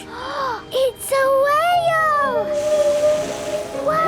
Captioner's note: gasps; whale calling